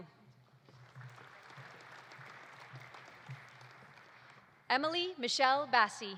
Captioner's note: audience applauding